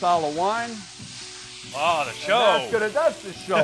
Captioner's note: frying crackles